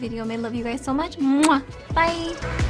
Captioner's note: kiss